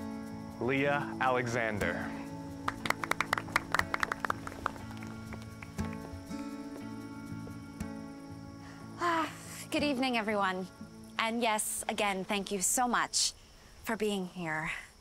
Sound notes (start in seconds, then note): 2.6 applause; 6.8 sighs